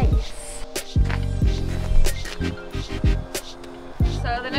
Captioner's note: footsteps crunch